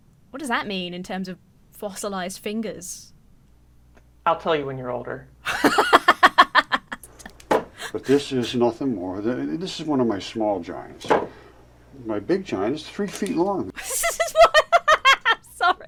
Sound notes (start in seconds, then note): 5.4 laughs; 13.8 laughs